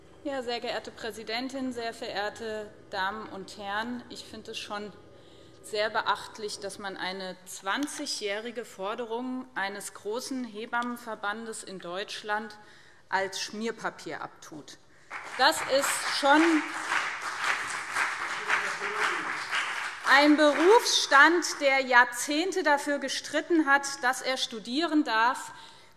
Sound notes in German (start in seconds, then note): 15.0 Beifall BÜNDNIS 90/DIE GRÜNEN und CDU